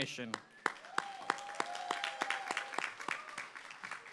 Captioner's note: applause